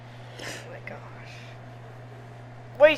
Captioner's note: laughs